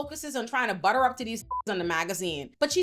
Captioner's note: beep